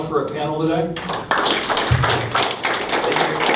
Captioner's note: applauding